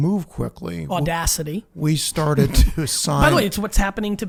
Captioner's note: laughs